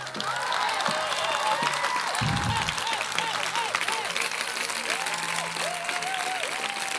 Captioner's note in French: Applaudissements